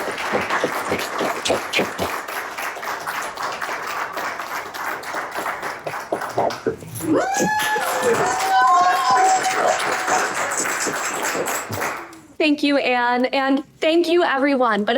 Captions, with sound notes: Thank you. [CHEERS, APPLAUSE] Thank you, Anne. And thank you, everyone.